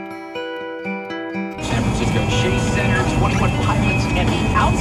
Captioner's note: radio playing in the back